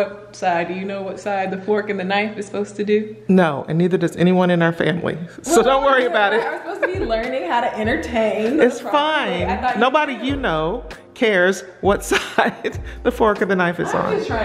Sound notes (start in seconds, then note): 6.0 laughs; 13.8 laughs